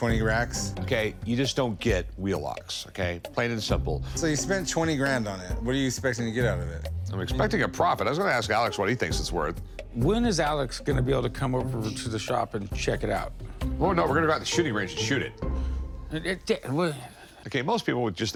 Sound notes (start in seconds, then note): 16.0 stammers